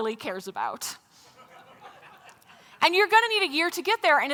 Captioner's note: laughter